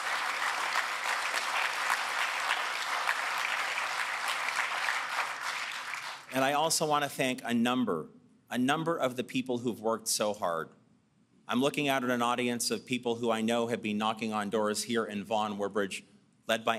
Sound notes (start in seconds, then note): 3.4 applause